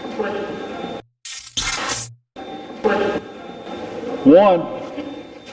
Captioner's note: electronic effect